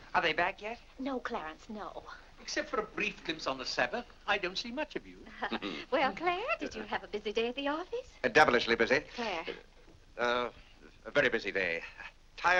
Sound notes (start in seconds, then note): 5.5 Clarence chuckles